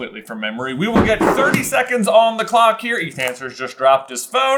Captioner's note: background thud